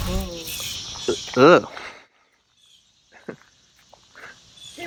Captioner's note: grunting